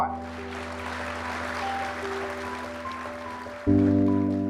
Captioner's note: audience applauding